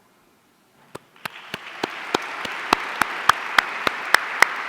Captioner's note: audience applauding